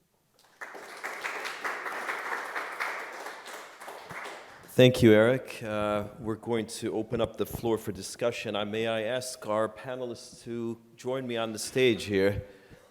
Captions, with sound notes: Thank you. (audience applauding) - Thank you, Eric. We're going to open up the floor for discussion and may I ask our panelists to join me on the stage here.